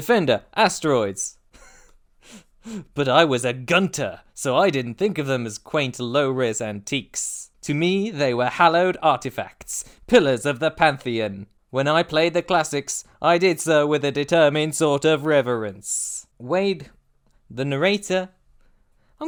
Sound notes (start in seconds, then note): 1.5 laugh